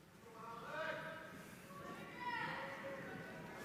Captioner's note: people hollering